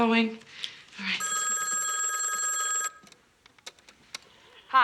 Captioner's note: phone rings